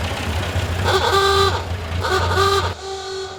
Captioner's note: whirring; honking